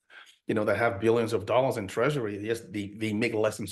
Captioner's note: chuckles